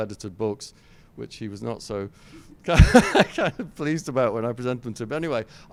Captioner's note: laughs